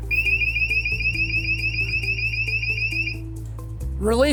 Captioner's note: alarm ringing